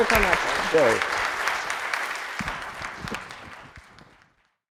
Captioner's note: applause